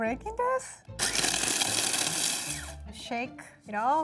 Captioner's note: blender whirs